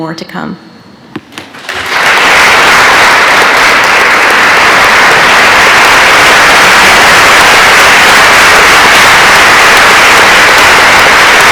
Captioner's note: applause